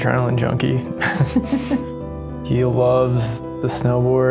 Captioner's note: both laughing